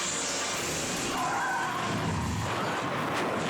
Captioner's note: dramatic music; tires skidding; car thudding